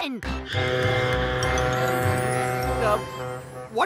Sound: honk

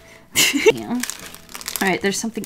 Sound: laughs

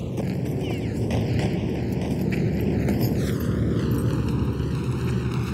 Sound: gunfire rattling

